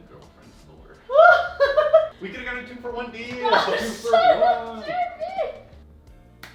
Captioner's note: laughs